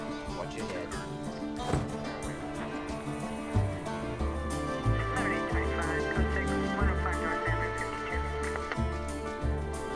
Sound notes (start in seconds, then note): 1.6 car door closes; 5.0 police radio chatter